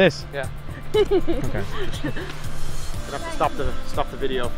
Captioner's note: woman laughing